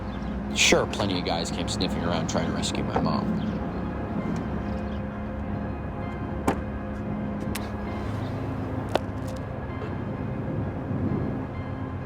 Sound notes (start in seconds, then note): 0.0 birds chirping; 5.9 door thuds